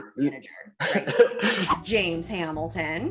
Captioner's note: laughing